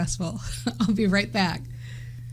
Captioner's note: laughing